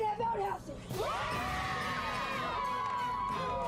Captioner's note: kids cheering